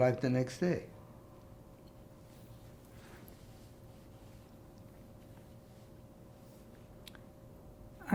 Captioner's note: pauses 6 seconds